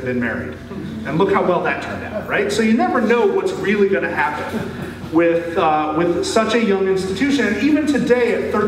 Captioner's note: laughter